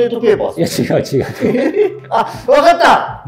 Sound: laughing

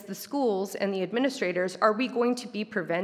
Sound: none

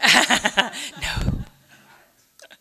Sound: audience laughing

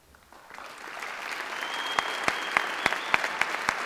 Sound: audience applauds

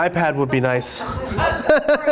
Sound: laughter

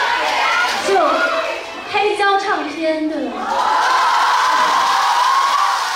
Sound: wife in mandarin

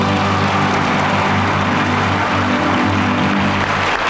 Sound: audience applauding

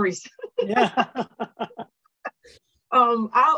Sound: laughter

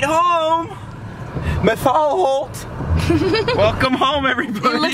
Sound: laughs

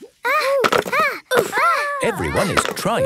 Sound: all grunting

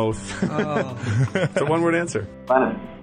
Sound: laughs

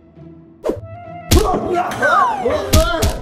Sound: glasses whooshing; glasses thuds; Dracula screams

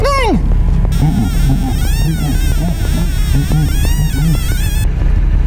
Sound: device bleeps wildly

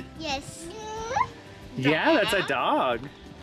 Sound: baby babble

